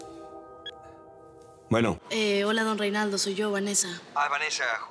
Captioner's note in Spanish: Suena el celular